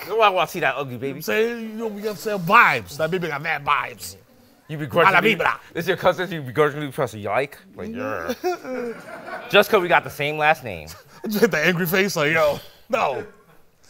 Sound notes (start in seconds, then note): 7.8 grumbles